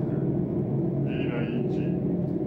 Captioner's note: speaking Romanian